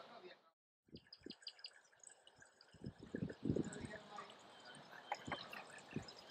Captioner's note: wind blowing and water flowing